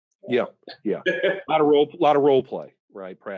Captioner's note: laughs